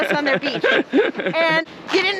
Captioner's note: laughs